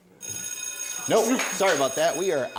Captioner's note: bell ringing